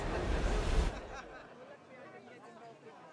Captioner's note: background laughter